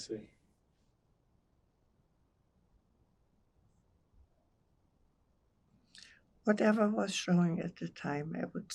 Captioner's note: pauses 6 seconds